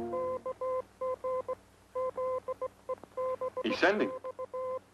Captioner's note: electronic beeping